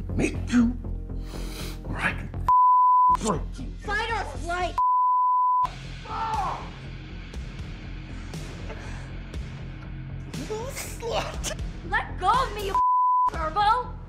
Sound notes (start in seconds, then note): 6.0 Goldstone screams; 8.7 laughs